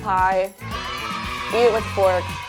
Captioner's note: cheer